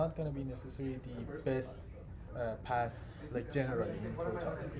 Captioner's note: faintly speaking